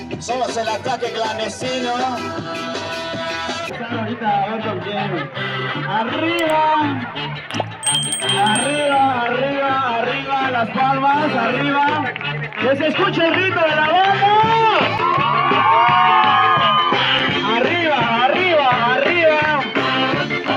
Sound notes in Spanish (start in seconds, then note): 15.1 gritos y música